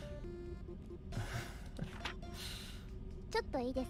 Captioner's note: chuckles